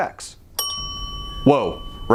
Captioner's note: bell dings